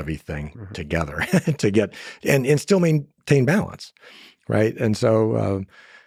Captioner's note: laughs